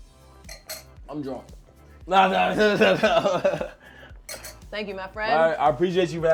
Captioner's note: laughs